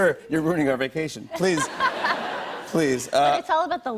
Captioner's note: laughter